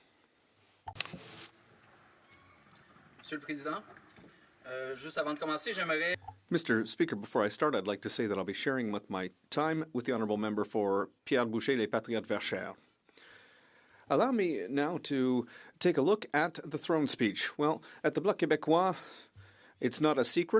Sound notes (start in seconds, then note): 9.6 speaking French